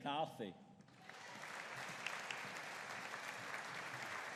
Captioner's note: audience applauding